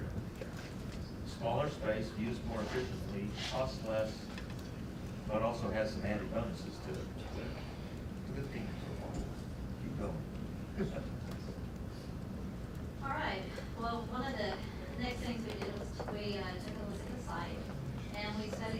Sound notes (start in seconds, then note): 11.8 laughs